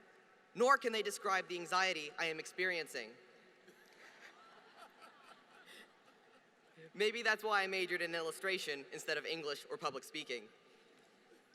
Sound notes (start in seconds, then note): 3.8 laughter